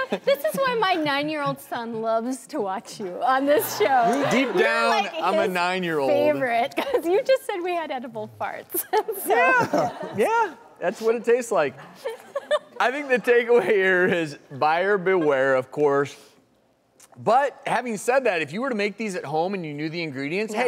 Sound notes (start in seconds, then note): 12.3 laughing